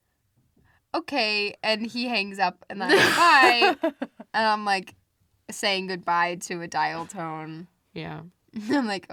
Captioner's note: laughs